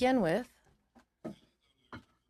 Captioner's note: speaking French